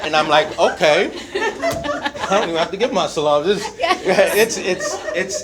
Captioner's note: speaks in Arabic